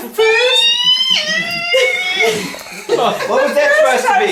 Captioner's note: squealing